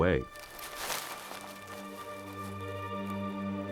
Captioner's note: sinister music playing; leaves rustling